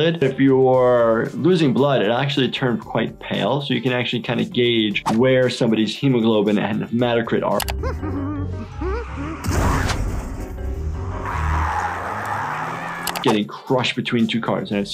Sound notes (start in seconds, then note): 7.7 Handy humming; 8.7 tires screeching; 9.4 car crashing; 10.7 tires screeching; 11.2 Handy screaming